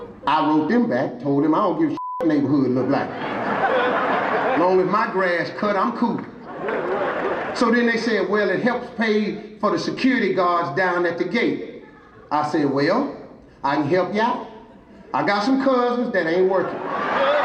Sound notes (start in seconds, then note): 2.7 audience laughing; 16.4 audience laughing